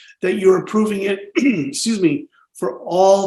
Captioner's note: coughs